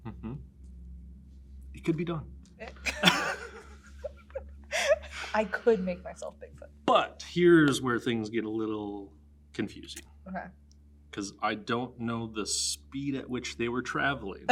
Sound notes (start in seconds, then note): 2.6 laughs